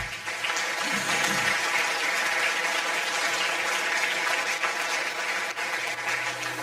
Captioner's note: audience applause